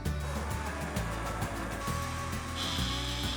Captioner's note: soft whirring